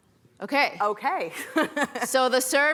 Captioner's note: laughs